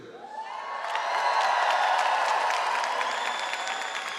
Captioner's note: audience applauds